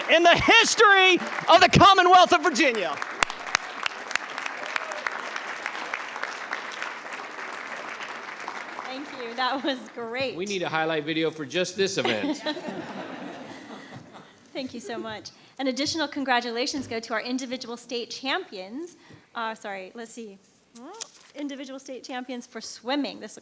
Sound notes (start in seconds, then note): 3.5 attendees applauding; 3.5 attendees cheering; 12.0 attendees laughs